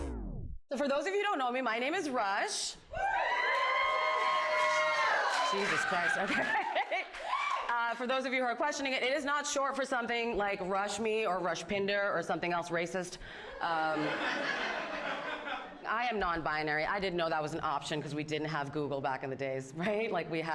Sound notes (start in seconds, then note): 2.9 audience cheers; 5.6 laughs